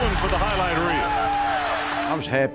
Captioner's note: cheering